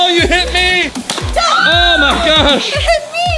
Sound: screaming

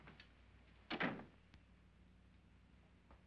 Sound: door closes

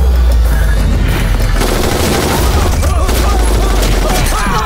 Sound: rapid gunfire

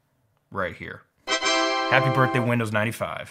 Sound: Windows fanfare

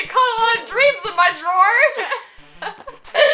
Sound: laughs

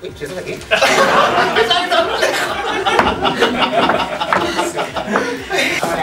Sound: laughs

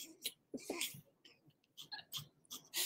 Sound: laughs

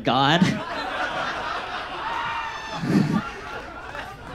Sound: audience laughs

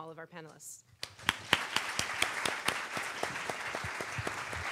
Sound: audience applauds

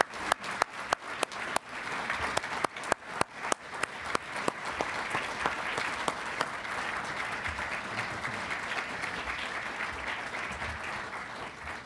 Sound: applause

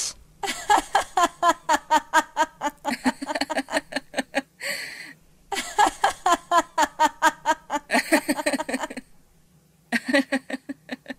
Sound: laughing

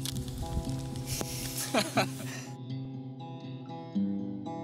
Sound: nervous laughter

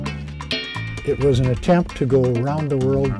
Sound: voiceover

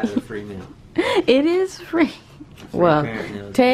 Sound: laughs

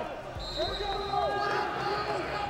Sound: whistle

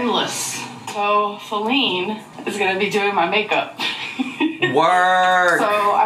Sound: laughs

